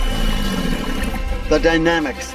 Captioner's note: hawk screeching; gator growling